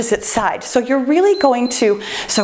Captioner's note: timer beeps